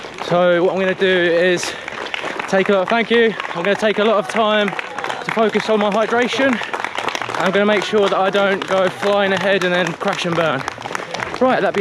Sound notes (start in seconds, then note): 6.6 crowd applauding